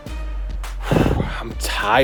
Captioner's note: sighs